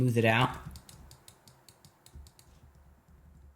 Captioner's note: mouse clicking